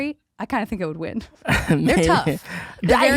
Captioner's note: laughs